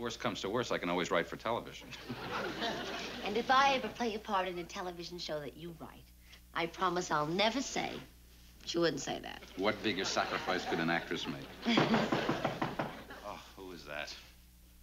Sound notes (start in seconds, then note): 1.8 chuckles; 11.3 chuckles; 11.7 knock at door